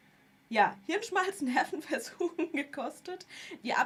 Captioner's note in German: gelächter